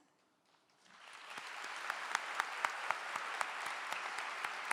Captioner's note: clapping